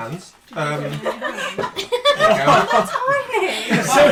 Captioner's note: laughter